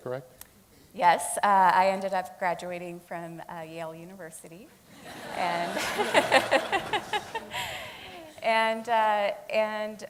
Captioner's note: laughing